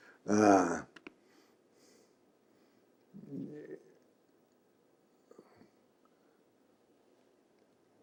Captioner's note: long pause